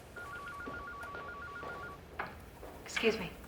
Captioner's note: phone ringing